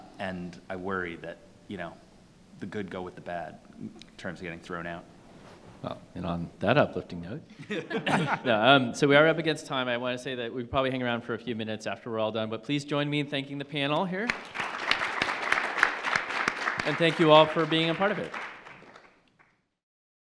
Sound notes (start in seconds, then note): 7.5 panelists laughing; 14.2 audience clapping